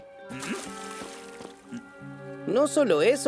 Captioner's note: water splashing